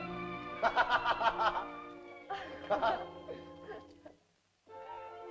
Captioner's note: soft music; Loana chuckles; Tumak laughs; soft uplifting music